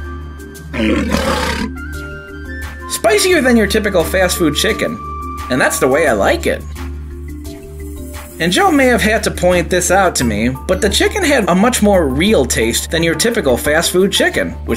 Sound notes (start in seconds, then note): 0.7 lion growling